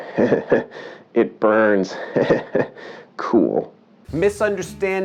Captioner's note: chuckling